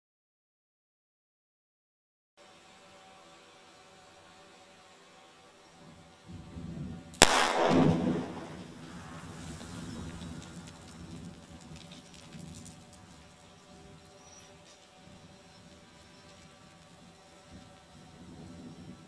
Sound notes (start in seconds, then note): 7.2 explosive booming; 7.2 rocks clattering